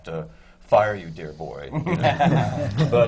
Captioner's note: laughter